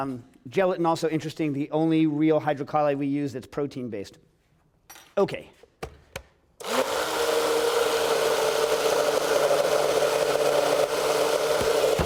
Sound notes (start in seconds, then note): 6.6 blending noise